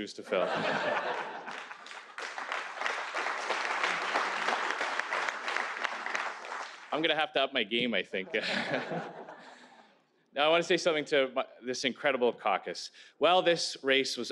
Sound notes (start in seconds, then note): 5.8 laughter; 6.2 applause